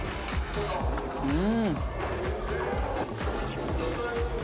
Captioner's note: eating